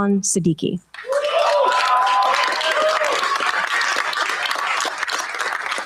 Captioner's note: cheers, applause